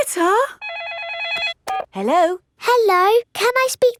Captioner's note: phone rings